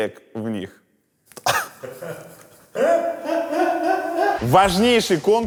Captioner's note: and the cameramen laugh